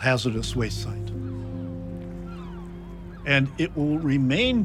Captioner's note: dramatic music; birds cawing